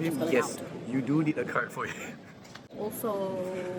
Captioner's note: laughing